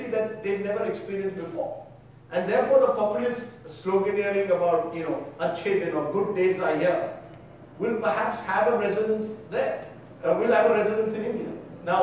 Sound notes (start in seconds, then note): 4.6 speaking in foreign language